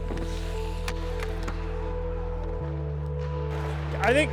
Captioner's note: stick slapping puck